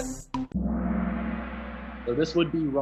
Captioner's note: gong